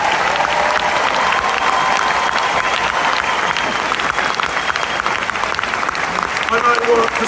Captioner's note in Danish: Bifald